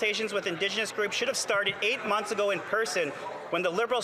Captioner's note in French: voix de l'interprète